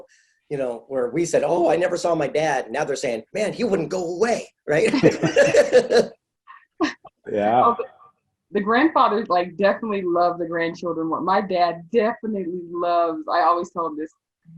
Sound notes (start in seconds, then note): 4.8 laughing